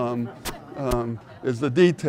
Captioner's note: audience laughing